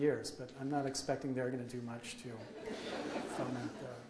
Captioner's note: audience laughs